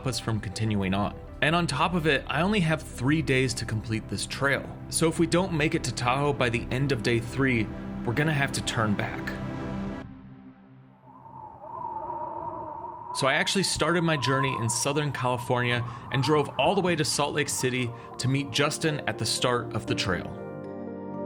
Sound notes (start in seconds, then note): 11.0 wind whistling